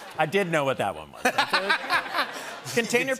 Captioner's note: laughter